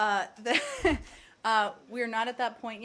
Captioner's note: laughter